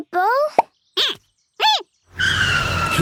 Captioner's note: squeaking